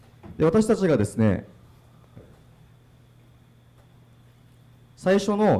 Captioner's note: speaking foreign language